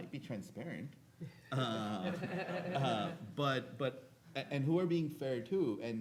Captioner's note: audience laughing